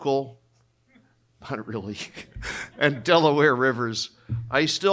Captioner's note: chuckling